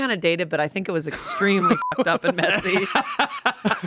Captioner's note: beep; everyone laughs